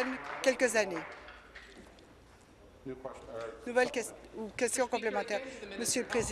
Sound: applause

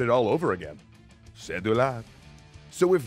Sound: smtg in french

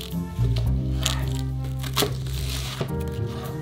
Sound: knife chopping

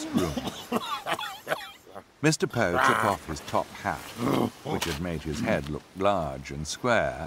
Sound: cough

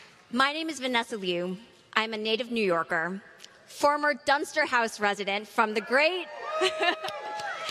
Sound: applause

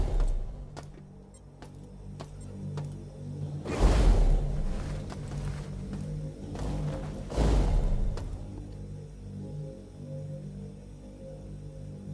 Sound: gunshots

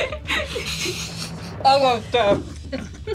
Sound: laugh

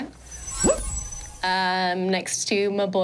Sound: twinkling resounds

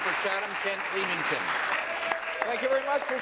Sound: applause

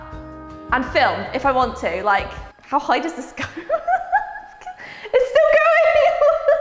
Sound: laugh

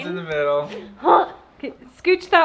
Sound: grunts

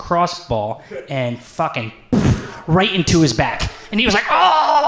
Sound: imitates ball slamming

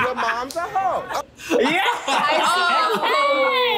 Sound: all laugh

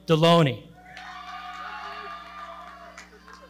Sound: audience cheering

